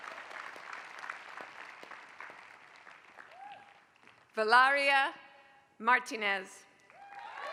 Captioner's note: applause; applause